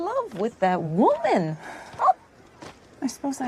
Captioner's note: sighs